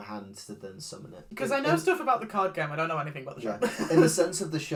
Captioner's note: laughs